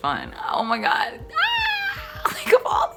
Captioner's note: screaming